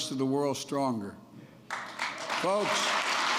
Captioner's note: applause